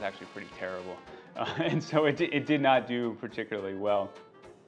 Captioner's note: laughs